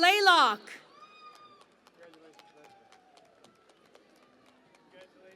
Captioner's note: cheering and Applause